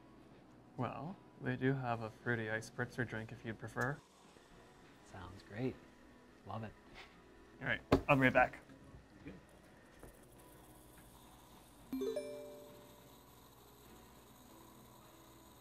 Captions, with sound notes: Well they do have a fruity ice spritzer drink if you prefer. Sounds great. I love it. Alright, I'll be right back (text alert)